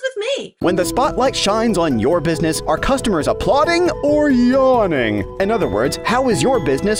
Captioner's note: voiceover